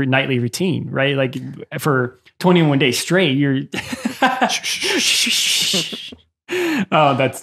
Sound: swishing sound

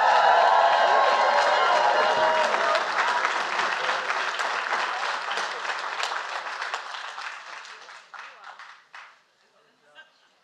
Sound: applause

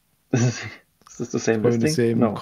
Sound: laughs

